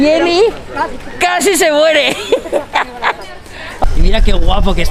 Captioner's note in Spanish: risas